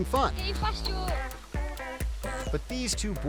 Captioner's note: kid speaking in foreign language